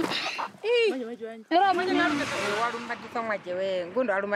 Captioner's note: herero audio spoken